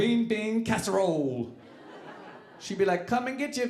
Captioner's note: audience laughing